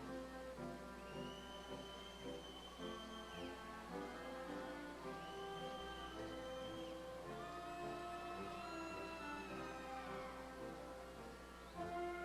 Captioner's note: applause